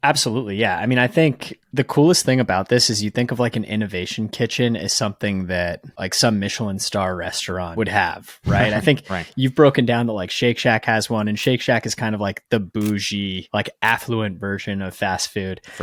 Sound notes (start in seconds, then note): 8.5 chuckling